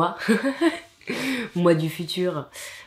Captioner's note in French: rires